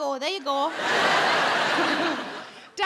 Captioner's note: audience laughing